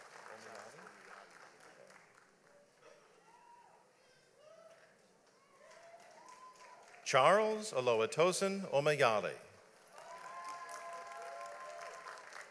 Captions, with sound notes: Charles Oluwatosin Omiyale. (audience applauds)